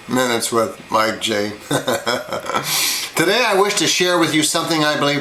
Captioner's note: laughs